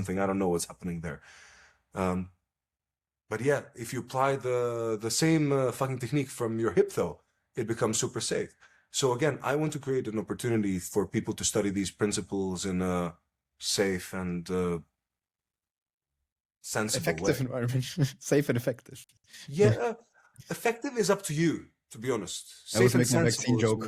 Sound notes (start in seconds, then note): 17.0 laughs